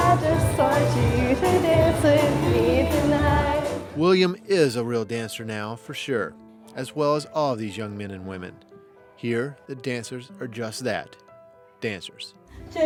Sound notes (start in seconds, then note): 4.0 voiceover